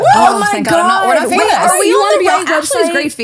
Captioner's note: overlapping chatter